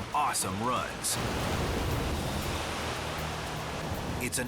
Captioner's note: waves crashing